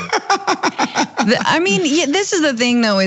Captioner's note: laugh